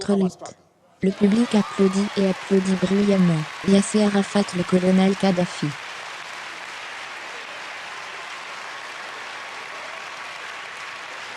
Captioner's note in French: Le public applaudit et applaudit bruyamment